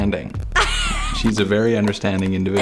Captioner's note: laughs